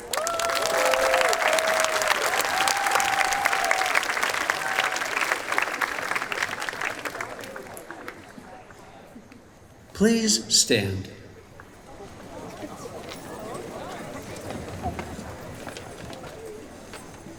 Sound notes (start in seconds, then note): 0.0 cheering, applause; 11.2 chatter